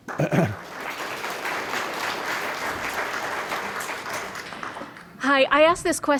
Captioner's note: applause